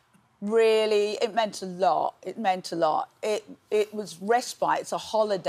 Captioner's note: none